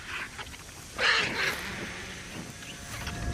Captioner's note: squawk overhead